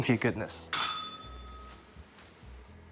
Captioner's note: bell rings